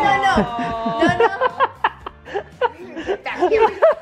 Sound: laughing

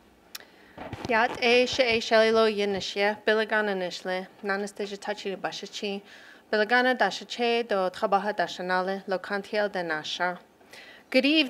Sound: non-english speech

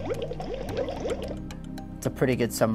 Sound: bubbling sound

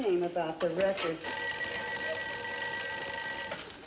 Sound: phone ringing

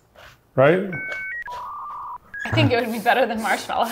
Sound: dial-up computer whirring

